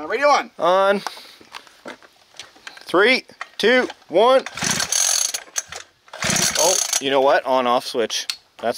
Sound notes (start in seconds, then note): 6.1 engine sputters